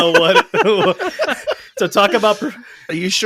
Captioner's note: laughing